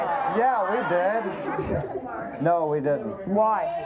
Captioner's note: laughs